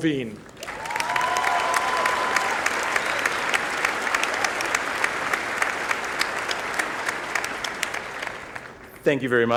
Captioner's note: applause